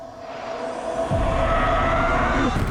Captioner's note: screams; banging